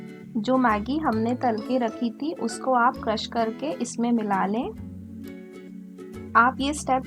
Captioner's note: crushed